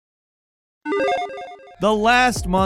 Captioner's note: electronic chiming